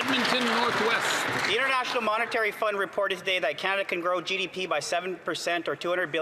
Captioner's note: cheering and Applause